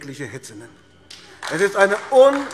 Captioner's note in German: Beifall AfD